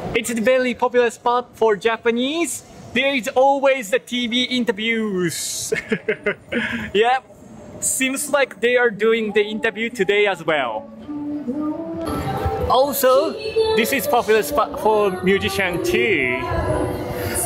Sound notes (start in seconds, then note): 5.6 chuckles